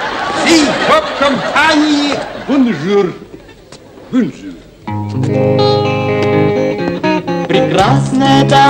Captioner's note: laughter